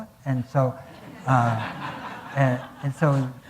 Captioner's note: audience laughing